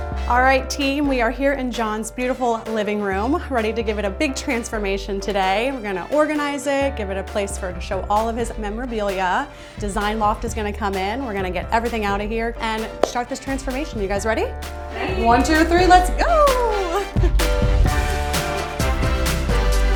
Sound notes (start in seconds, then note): 16.3 chuckling; 17.2 upbeat rock music